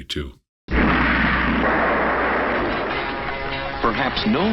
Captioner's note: launch blast